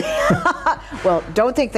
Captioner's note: both laughing